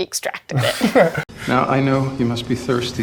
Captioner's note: chuckles